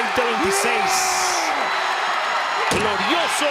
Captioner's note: commentators speaking Spanish; Damian yelling; door slams